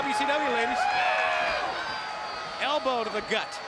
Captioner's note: crowd cheering